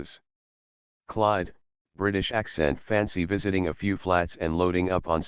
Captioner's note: British accent